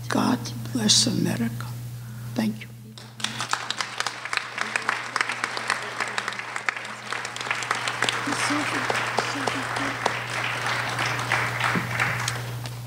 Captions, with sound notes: god bless America, thank you. (applause) (speaking off mic)